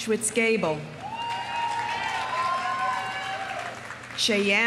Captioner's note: audience cheering; audience applauding